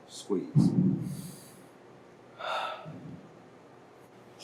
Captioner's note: inhaling and exhaling